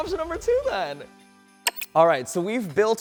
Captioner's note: electronic clicking